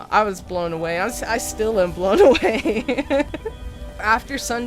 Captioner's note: laughs